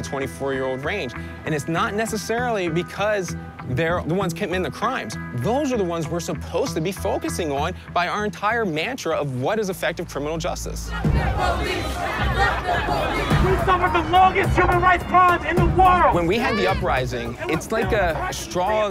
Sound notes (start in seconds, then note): 10.8 people shouting; 12.4 shouting